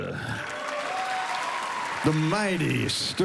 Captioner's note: cheering and applause